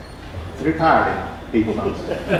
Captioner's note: laughter